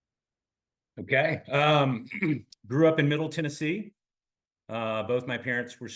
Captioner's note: cough